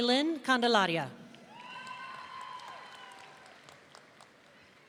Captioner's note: audience cheering